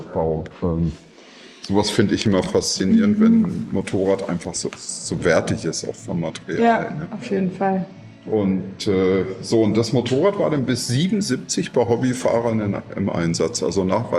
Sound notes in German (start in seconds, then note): none